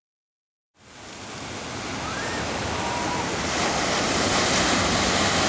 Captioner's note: ocean waves and birds